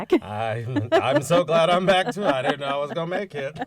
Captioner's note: laughter